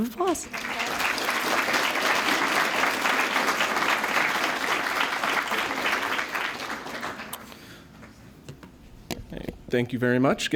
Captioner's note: applause